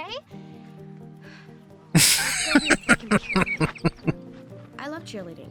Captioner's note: laughing